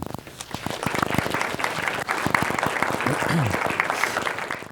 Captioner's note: applause